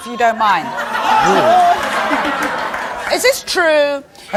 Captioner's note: audience laughs